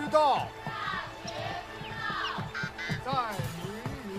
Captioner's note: children reciting